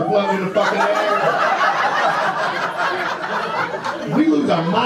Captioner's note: audience laughter